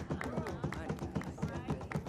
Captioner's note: clapping